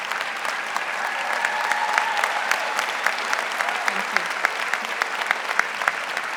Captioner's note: applause getting louder